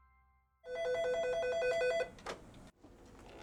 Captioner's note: phone rings